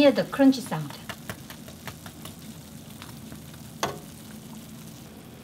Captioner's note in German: leichtes klopfen